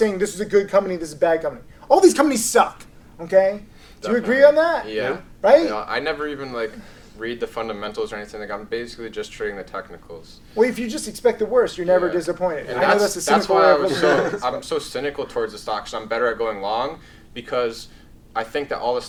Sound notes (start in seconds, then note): 12.8 laughs